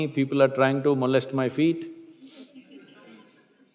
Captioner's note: few laugh